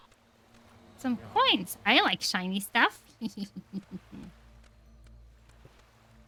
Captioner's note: laughs mischievously